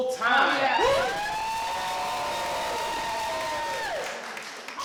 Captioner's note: cheers